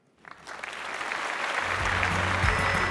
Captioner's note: applause; concluding music